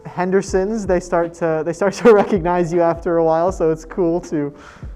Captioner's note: chuckles